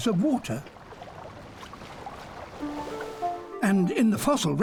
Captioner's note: water sloshing